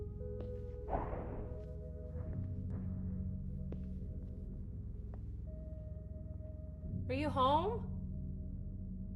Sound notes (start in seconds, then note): 0.9 object thudding